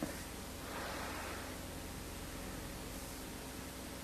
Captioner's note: inhales deeply